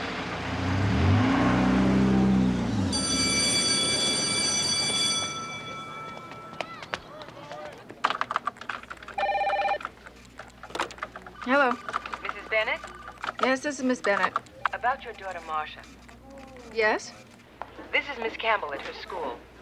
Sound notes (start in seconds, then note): 2.7 bell ringing; 8.0 typing; 9.1 phone ringing